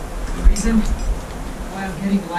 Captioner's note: water rushing